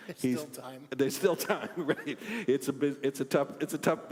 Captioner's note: laugh